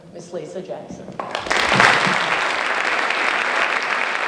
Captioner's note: applause